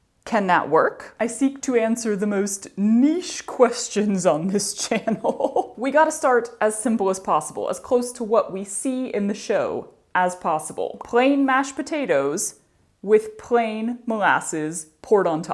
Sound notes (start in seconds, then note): 4.8 laughter